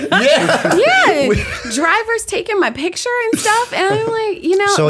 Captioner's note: laughter